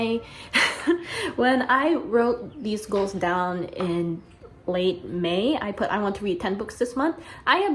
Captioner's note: giggles